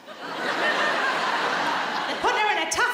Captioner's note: audience laughs